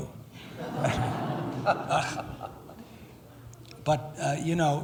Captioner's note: laughing